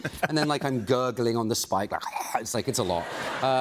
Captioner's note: gurgling